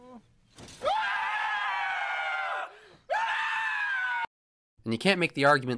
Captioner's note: both scream